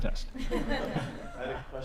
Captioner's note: laughter